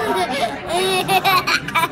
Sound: laughing

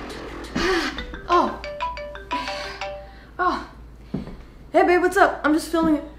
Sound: phone rings

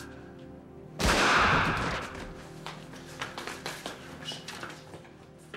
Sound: gunshots

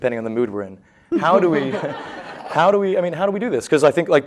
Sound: laughter

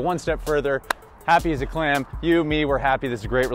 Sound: hands clap

